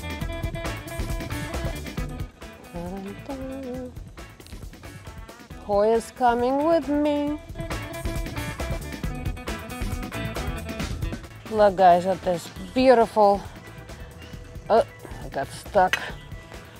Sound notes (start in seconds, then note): 0.3 upbeat music; 2.9 humming; 7.9 upbeat music